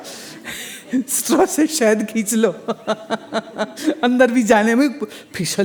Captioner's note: laughs